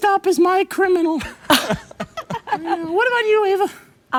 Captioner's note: laughter